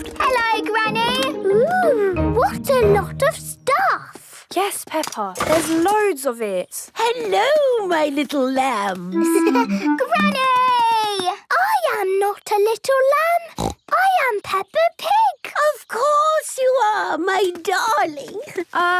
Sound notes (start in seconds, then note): 9.2 laughing; 13.4 snorting